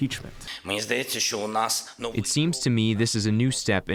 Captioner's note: through translator